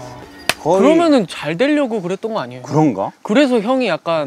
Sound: clap

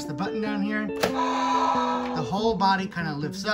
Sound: dinosaur roars

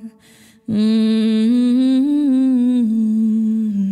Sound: humming

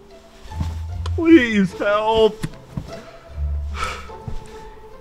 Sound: sighs

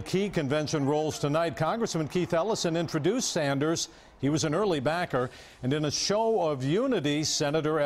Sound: cheering and applause

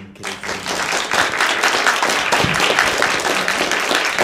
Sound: applause

